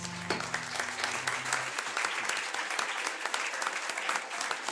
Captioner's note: crowd applauding